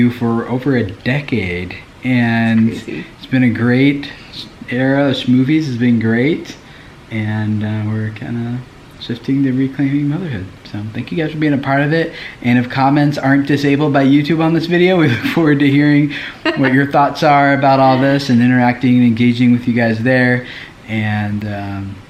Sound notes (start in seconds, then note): 16.2 laughs